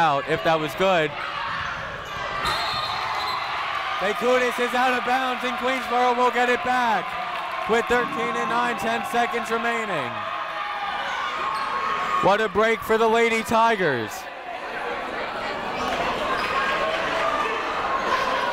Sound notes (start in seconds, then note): 1.5 people shouting in the crowd; 2.4 whistle tweeting; 4.2 people cheering in the crowd; 10.3 people shouting in the crowd; 14.2 people shouting in the crowd